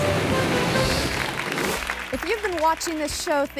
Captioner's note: image whooshes; audience clapping